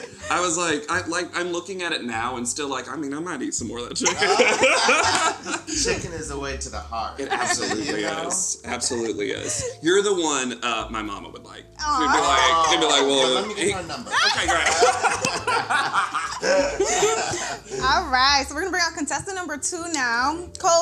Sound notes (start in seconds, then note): 4.0 all laugh; 15.1 all laugh